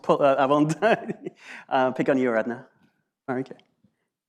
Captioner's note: laughs